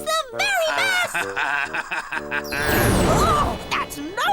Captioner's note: laughing